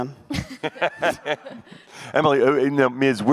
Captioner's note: panel laughs